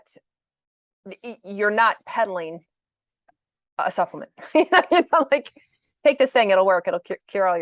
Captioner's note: laughs